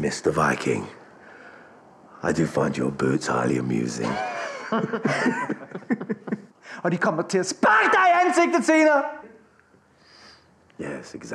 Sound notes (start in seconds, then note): 4.0 laughing; 5.1 speaking foreign language